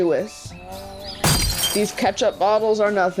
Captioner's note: glass shattering